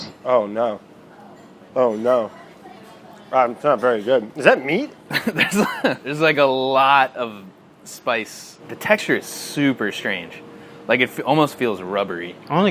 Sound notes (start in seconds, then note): 5.1 laughing